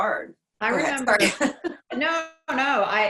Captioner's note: chuckles